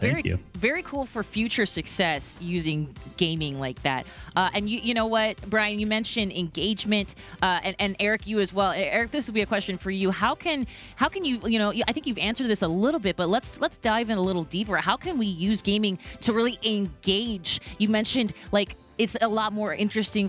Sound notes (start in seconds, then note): none